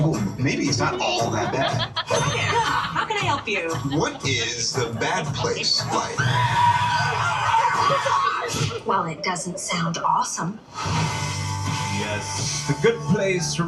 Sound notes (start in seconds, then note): 5.7 people screaming